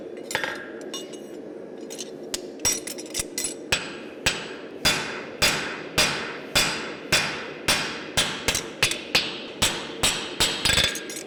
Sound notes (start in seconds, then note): 3.7 sharp metallic hammering